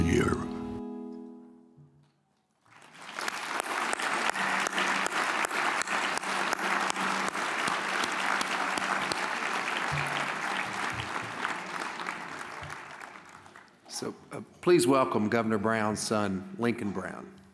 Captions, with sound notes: (audience applauds) - So please welcome Governor Brown's son, Lincoln Brown.